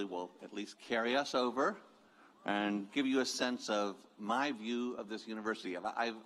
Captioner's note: cheers